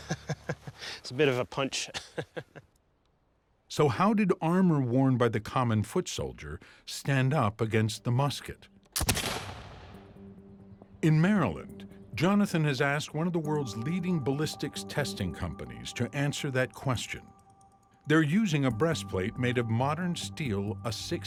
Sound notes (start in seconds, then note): 1.8 chuckles; 9.0 gunshot